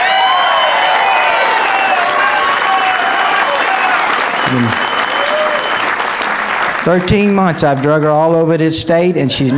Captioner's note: applause